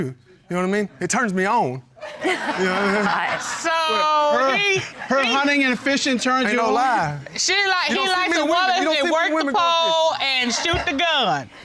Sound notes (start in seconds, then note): 1.9 chuckles